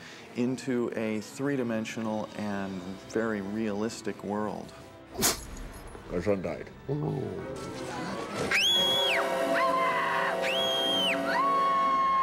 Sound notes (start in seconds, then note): 5.1 sneezing; 9.4 screaming